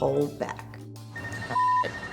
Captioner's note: cell phone rings